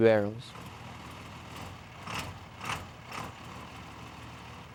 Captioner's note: truck engine sputters